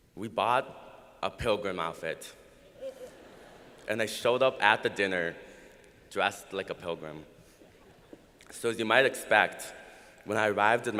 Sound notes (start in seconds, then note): 2.8 laughter